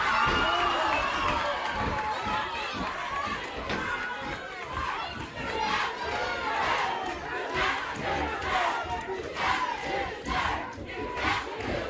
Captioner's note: crowd cheering